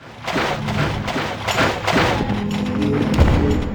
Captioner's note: footsteps in water